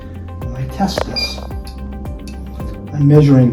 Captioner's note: equipment beeping